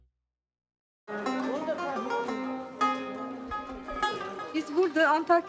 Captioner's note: speaking Turkish